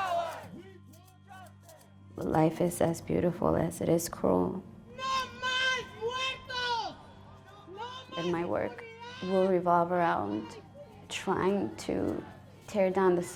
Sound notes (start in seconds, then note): 5.2 woman chanting in spanish